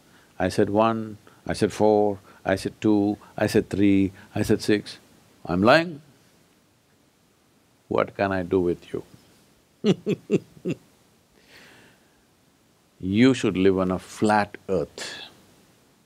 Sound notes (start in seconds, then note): 9.8 laughs